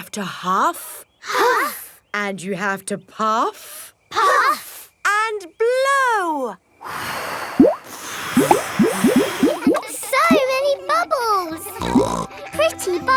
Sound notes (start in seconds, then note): 7.5 all blowing; 11.8 snorts